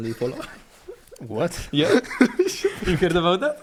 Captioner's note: laugh